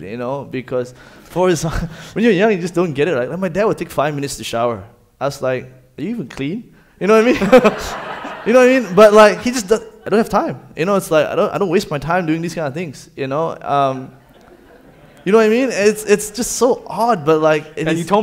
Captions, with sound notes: Yeah yeah, I just don't get it. My dad would take five minutes to shower. I was like, "Are you even clean?" You know what I mean? (laughs) But he was like, "I don't have time. "I don't waste my time doing these kind of things." (audience laughing) It's just so odd, but like--